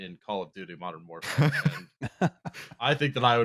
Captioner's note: laugh